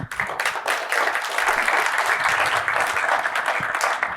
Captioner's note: applause